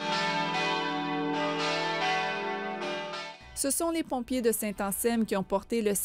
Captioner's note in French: volée de cloches